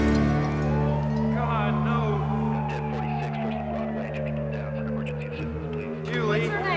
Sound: siren blaring

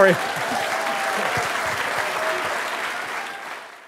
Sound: applause

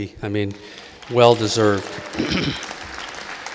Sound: audience applauding

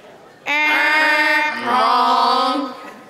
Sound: imitating buzzer

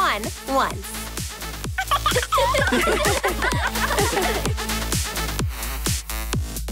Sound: all laugh

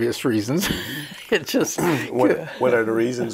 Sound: he laughs

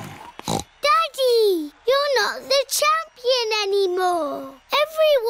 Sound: snorts

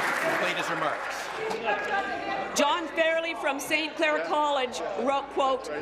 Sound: applause

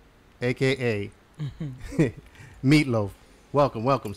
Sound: laughter

